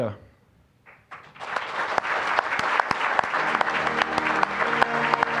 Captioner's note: applause